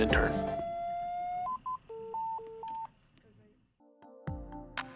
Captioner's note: monitor beeping; inspirational music